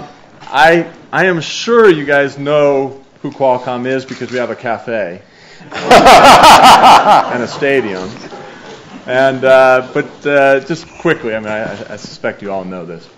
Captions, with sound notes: I am sure you guys know who Qualcomm is, because we have a cafe. (audience laughs) And a stadium. But just quickly I suspect you all know this,